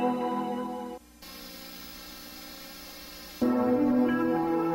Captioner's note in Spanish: videocassette estático